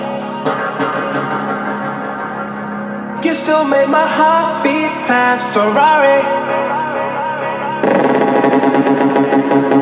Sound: atmospheric sounds

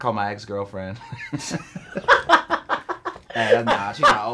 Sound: both laughing

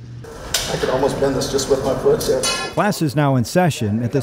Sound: background chatter

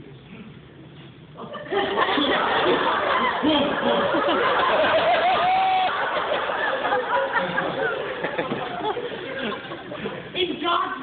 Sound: laughter

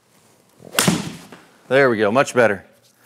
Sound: golf ball smacks; golf club whacks

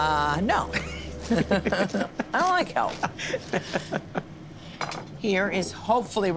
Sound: laughs

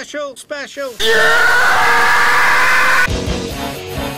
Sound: loud howie scream

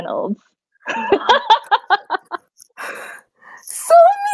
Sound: laughing

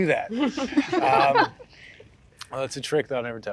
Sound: all laughs

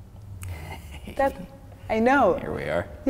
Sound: chuckling

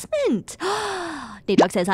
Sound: gasp

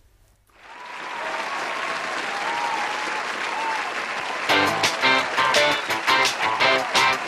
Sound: applause; cheers; energetic music

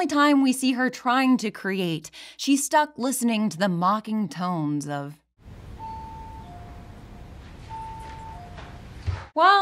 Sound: distant tones

